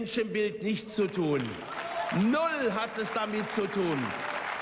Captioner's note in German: Beifall